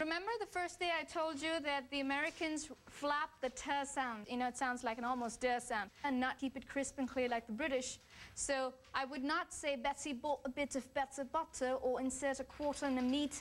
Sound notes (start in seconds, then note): 8.3 British accent